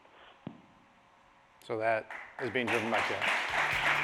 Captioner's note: applause